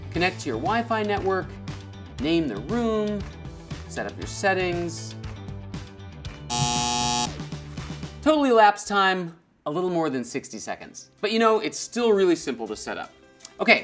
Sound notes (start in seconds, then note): 6.5 buzzer sound